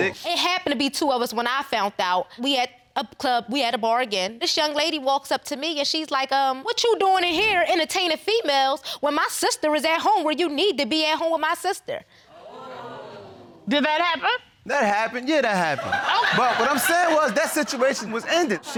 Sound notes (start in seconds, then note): 12.4 audience exclaims